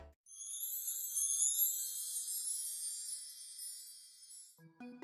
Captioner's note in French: 🎶 Son Féérique 🧚‍♀️🎶